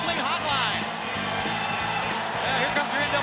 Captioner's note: crowd cheering; upbeat music